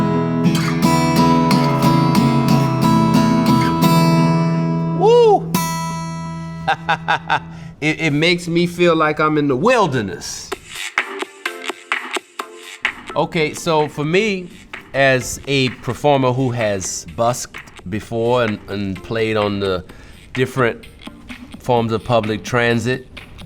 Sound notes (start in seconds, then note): 0.0 guitar playing continues; 6.4 laughs